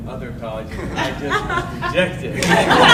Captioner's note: audience laughing